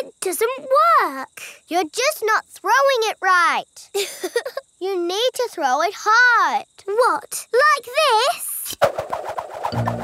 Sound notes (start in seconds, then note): 3.9 chuckles